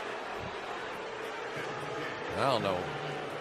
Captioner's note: booing